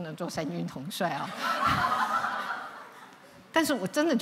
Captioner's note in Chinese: 笑聲